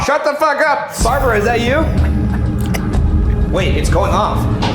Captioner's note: chuckling